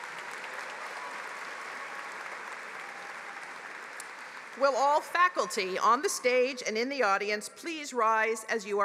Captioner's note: applause